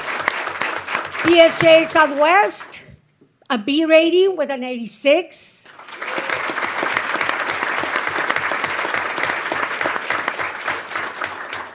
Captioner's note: applause